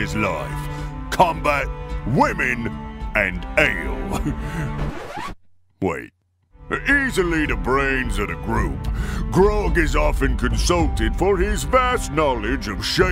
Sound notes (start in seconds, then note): 4.1 chuckle; 4.7 record scratch